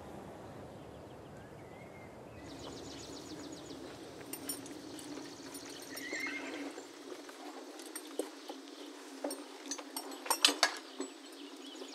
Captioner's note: nature sounds